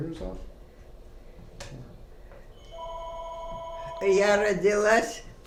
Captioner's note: phone ring